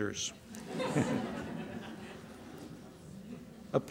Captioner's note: laughter